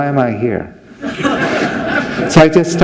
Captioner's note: laughter